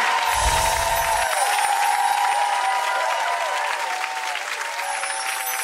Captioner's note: audience cheering and applauding; audience cheers and claps; musical chimes tinkling; audience clapping; musical chimes tinkling